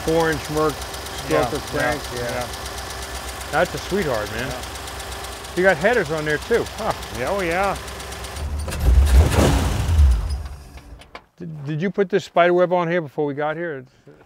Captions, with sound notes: - You got the four inch Murph.... - Yeah, yeah - That's a sweetheart man. You got headers on there too. - Oh, yeah. (engine turns off) - Did you put the spider web on here, before we got here?